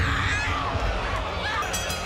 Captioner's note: bell ringing